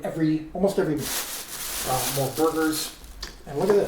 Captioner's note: bag crinkles